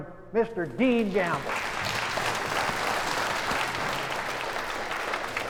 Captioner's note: applause